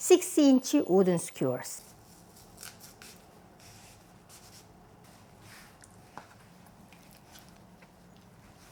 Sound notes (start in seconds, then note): 5.0 rustling movement